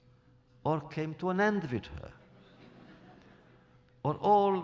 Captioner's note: laughter